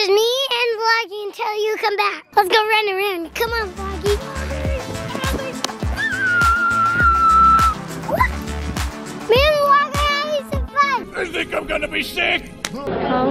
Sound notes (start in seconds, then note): 5.9 screaming